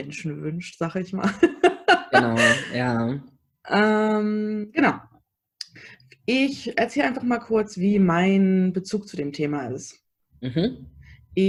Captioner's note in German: lacht